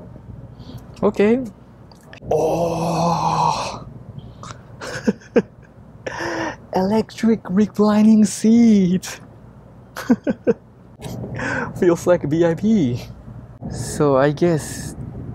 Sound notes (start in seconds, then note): 4.7 chuckles; 9.9 chuckles